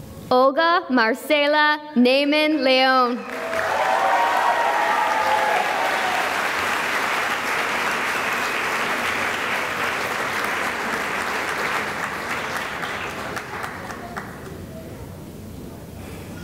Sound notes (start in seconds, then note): 3.0 cheering and applause